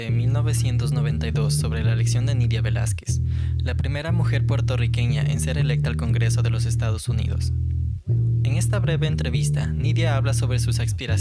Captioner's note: someone also speaking in Spanish